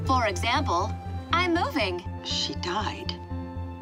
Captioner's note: woman on phone